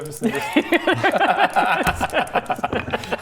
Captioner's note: smartest-thing-I've-heard-all-day laughter